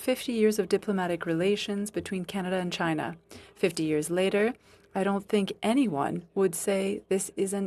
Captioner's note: speaking French